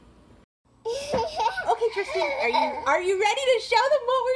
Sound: child giggling

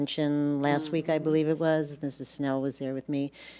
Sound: none

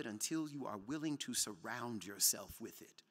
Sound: none

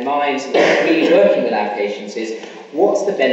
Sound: coughing masks speaker

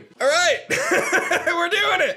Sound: chuckles

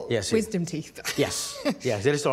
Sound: laughing

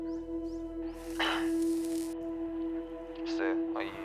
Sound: cigarette burning

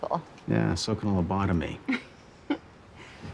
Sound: chuckles

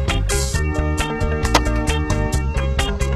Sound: beanbag hits board; upbeat keyboard music continues

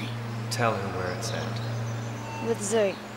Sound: voiceover

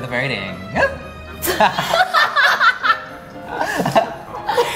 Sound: laughing

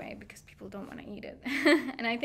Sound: laughing

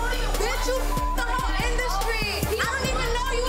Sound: beep

